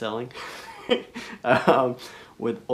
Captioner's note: laughs